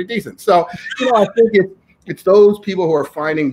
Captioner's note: laughing